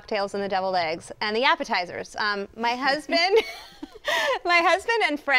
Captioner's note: chuckles